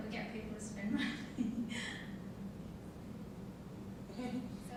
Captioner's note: laughing